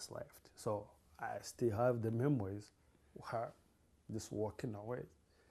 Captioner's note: sobbing